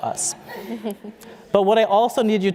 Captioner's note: laughter